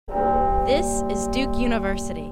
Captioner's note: bell ringing